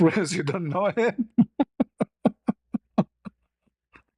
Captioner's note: ketawa